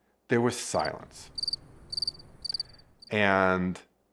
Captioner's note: crickets chirping